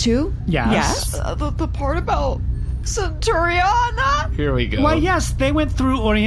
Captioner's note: sobbing